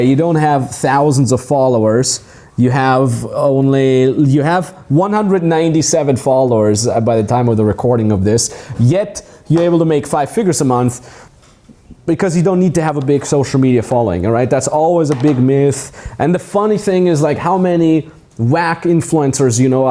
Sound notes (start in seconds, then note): none